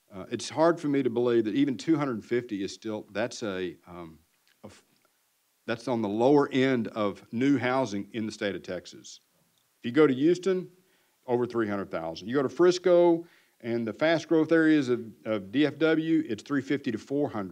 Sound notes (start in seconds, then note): none